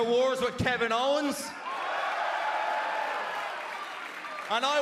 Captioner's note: cheers and applause